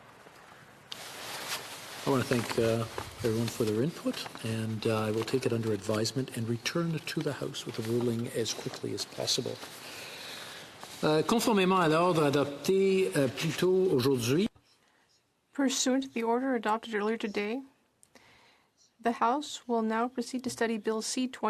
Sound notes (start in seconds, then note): 18.1 speaking French